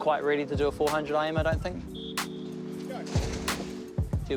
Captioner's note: whistle trills